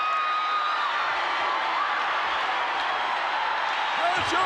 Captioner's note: crowd cheers